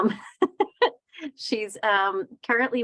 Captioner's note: laughing